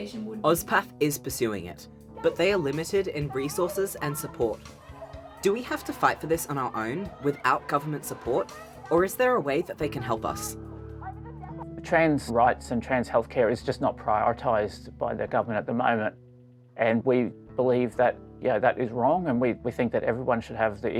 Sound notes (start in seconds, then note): 3.9 muffled shouting; 7.8 muffled shouting